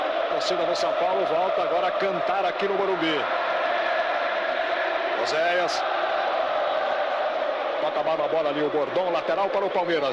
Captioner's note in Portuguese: aplausos